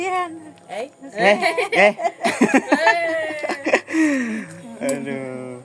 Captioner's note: laughs